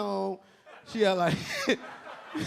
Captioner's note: a few audience members laughing